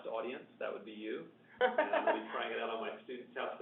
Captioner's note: laughs